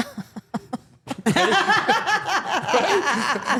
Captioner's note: all laughing